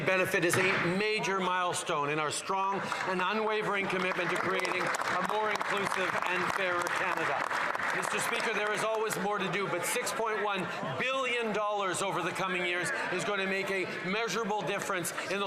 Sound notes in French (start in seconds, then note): 1.5 voix de l'interprète